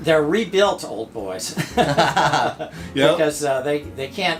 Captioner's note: both laughing